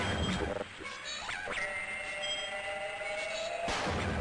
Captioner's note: machine whirring; gunshots